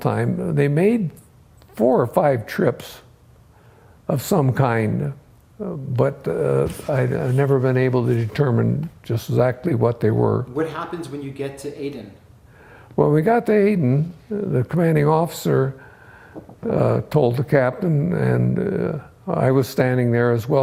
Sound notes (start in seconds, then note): none